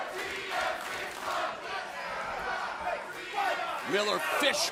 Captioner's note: crowd cheering